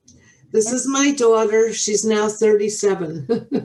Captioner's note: laughing